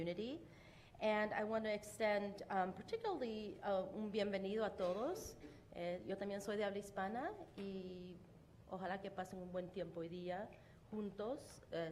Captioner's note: speaking spanish